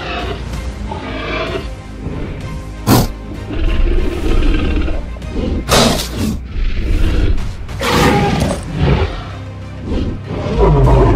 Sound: T-Rex grunting

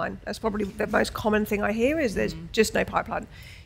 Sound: none

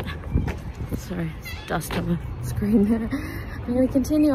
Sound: chuckles

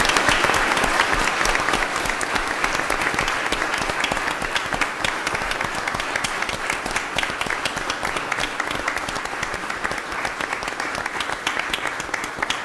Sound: applause

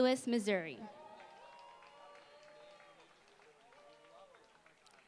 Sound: applause

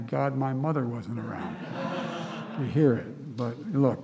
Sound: laughter

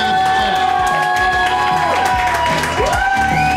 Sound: crowd cheering

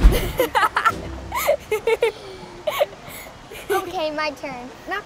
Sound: laughter

